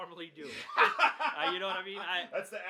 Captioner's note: laughs